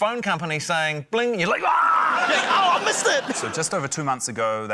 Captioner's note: yells